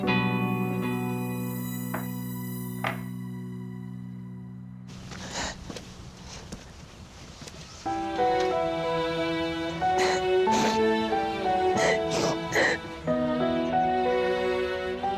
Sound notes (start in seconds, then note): 6.0 Biricik cries; 9.8 dramatic music continues